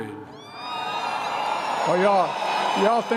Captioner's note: applause